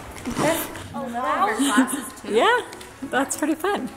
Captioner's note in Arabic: أطفال يتحدثون